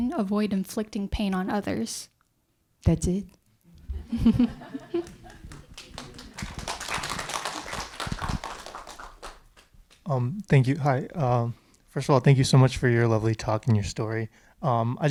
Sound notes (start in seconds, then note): 3.9 audience laughs; 6.5 audience applauding